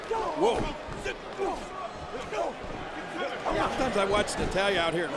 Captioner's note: Kofi grunting